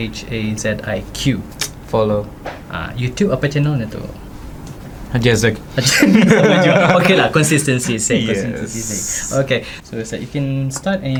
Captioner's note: laugh